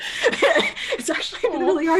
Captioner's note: both laughing